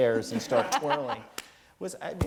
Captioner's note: laugh